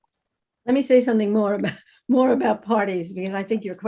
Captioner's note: laughs